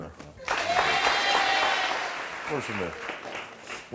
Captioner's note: audience clapping